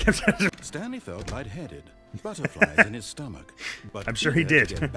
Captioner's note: laughs